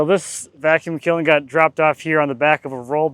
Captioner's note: laughs